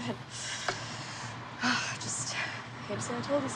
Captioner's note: sighs